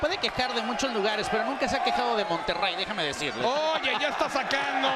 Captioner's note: laugh